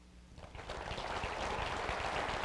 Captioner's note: applause